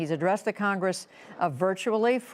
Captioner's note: none